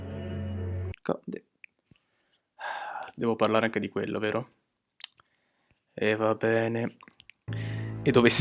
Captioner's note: sigh* alright